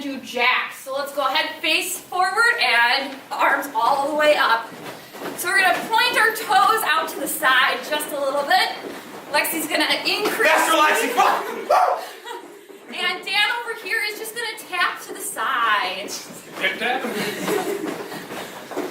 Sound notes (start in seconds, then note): 10.2 laughing; 17.0 laughter